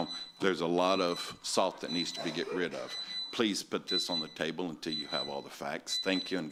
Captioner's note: buzzer